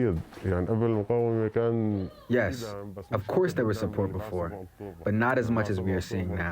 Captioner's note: through translator